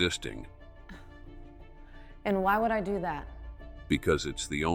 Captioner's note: scoffs